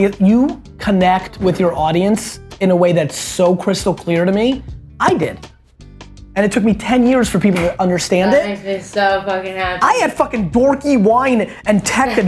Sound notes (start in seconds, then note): 7.5 hands clasping